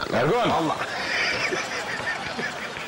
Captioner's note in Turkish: Gülme sesi